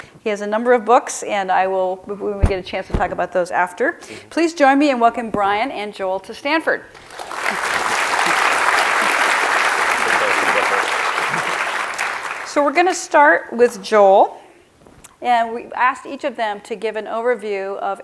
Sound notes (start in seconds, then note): 7.0 clapping